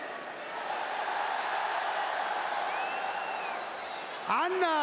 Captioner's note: applause